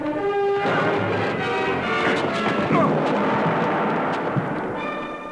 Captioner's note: gong banging